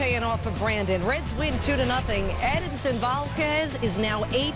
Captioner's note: whistling